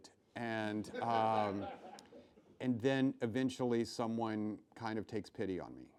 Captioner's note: laughing